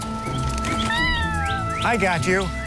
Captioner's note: kitten meows